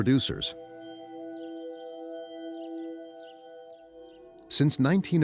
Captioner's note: birds chirping; slow music